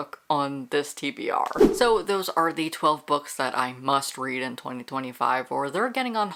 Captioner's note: whoosh